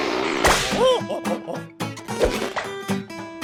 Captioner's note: balloon squeaking; balloon pops; gorilla hooting; buoyant music